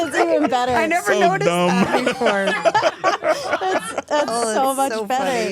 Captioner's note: laughs